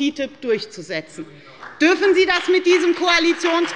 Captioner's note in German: Beifall bei der FDP